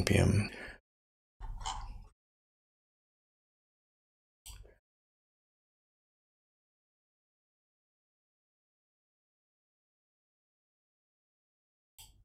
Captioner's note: blank Audio